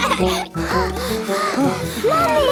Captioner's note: panting; children giggling